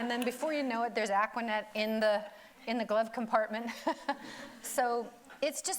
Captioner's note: laughs